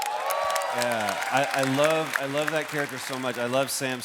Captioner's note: cheers and applause